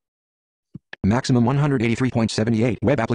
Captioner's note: voiceover